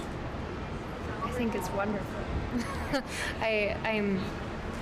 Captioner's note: chuckles